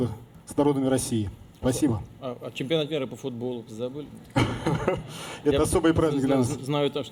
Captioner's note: laughter